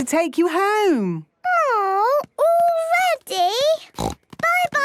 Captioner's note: snort